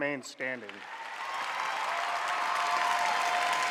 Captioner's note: applause